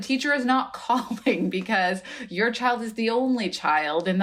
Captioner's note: laughter